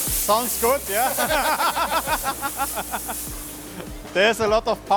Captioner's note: all laughing